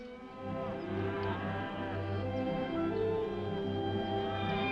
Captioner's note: gentle upbeat music; cows mooing; gentle upbeat music